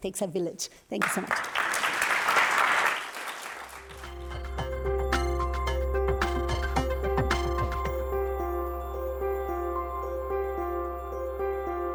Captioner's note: applause